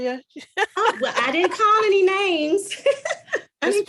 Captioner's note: laughs